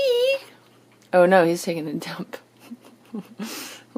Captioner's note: chuckling